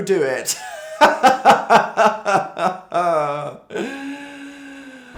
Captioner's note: more suffer laughing